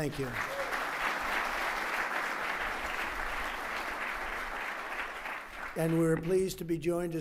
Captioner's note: applause